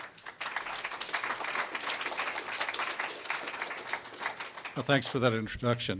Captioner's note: applause